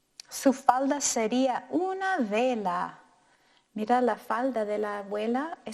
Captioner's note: speaking in foreign language